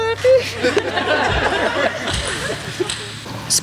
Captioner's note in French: rires